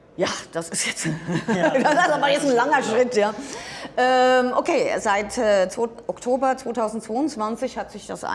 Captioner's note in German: gelächter